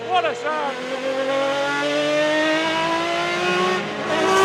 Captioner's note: engine roaring